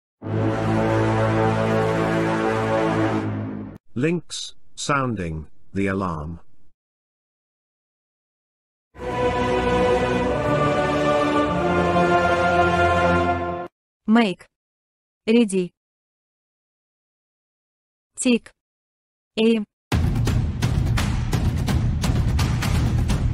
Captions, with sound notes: (War Horn) Linx Sounding The Alarm! (Evil Sound Effect) "MAKE-" "READY!" "TAKE-" "AIM!" (Epic War Drums)